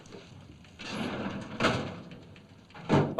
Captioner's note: drawer slides shut